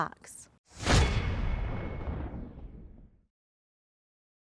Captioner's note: logo swoosh